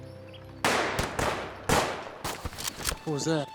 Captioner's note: gunfire